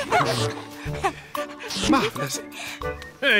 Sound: giggles

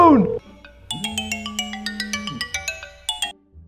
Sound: phone rings

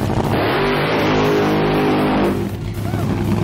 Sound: engine revs loudly

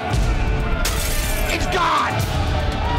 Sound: bottle shatters

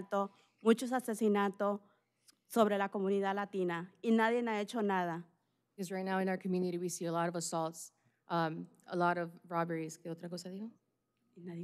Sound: speaking spanish

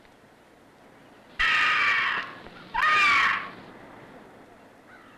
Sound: shrieking

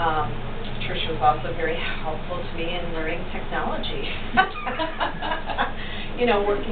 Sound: laughter

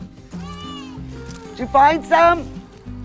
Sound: child yelling

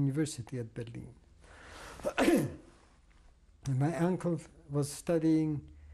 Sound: pauses for 3 seconds

